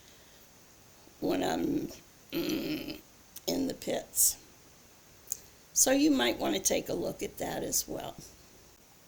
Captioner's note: groan